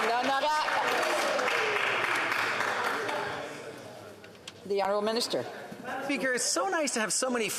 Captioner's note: applause